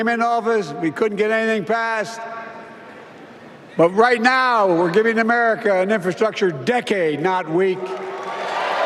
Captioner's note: applause